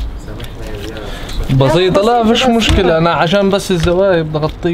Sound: speaking in Arabic

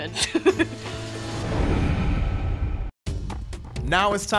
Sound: giggling

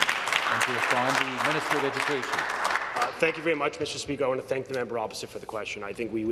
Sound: some Applause

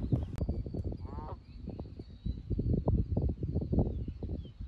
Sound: geese honk

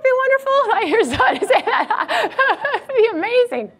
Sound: laughs

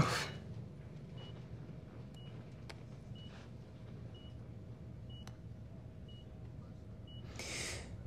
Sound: monitor beeping

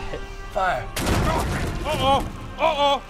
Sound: bang!

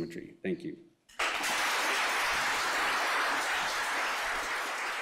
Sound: applause

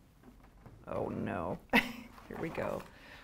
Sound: chuckles

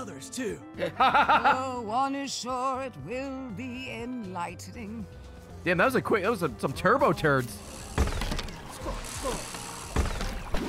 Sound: laughs

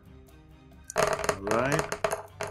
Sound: dice thudding

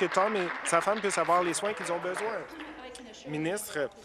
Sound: applause

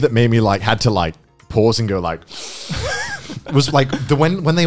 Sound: sighs loudly

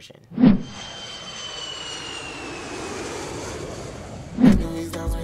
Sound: airplane engine roars

